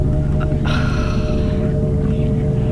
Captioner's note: irritated but confused sigh